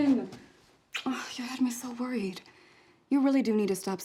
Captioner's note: kiss